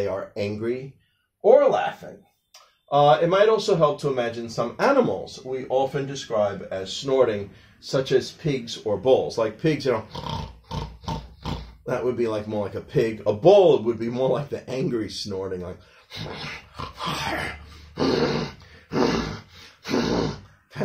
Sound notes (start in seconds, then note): 10.0 snorting pig sounds; 18.4 snorting bull sounds